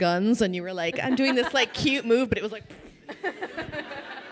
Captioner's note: crowd laughing; vocalizes